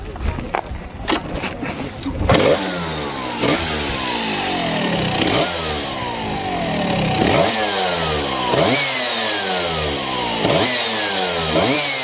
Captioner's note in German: brumm brumm